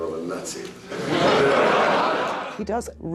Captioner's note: audience laughs